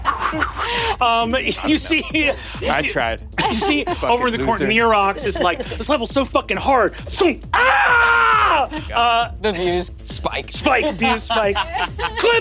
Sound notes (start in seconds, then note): 0.0 Brennan mimics wind whipping; 7.5 screams; 10.6 Ally laughs